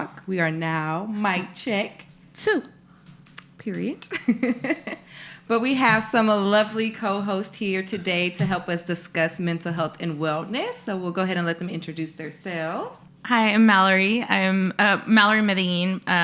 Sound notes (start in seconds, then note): 4.2 laughs